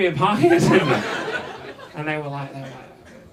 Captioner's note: audience laughs